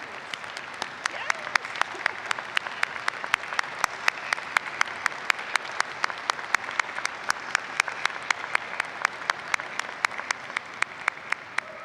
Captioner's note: applause